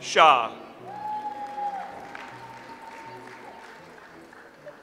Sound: audience applauds

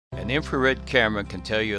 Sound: voiceover

